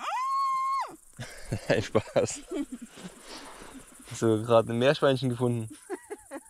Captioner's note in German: quiekt